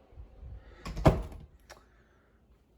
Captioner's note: bedroom door closes